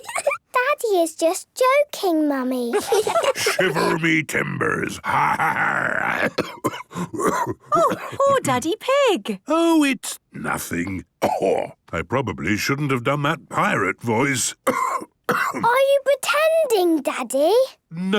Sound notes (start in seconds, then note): 0.1 laugh; 2.9 menacing voice; 5.3 growls; 6.0 cough; 14.6 cough